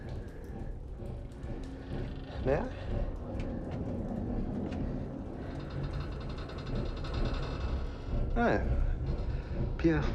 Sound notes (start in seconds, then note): 0.1 boat chugging; 3.3 ship creaking